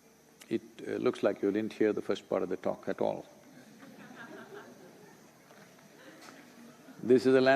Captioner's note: laughter